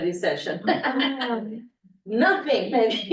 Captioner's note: laughs